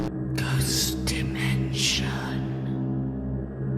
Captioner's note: ghostly Voice